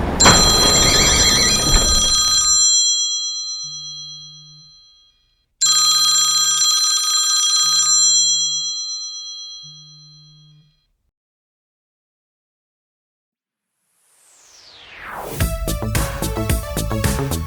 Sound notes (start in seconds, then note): 0.0 phone ringing and garage door closing; 5.6 phone ringing